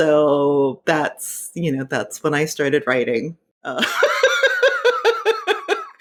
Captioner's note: laughing